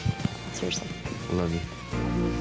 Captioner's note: smooch